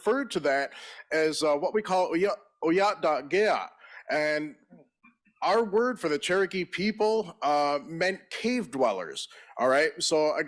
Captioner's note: in Native language